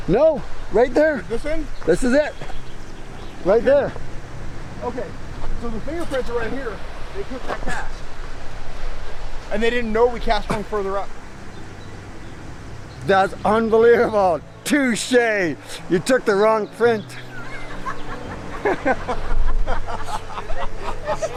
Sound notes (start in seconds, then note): 17.0 all laughing